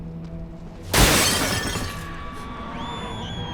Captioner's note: glass shatters; screeching demonically